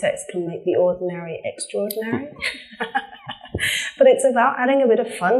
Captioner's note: laughs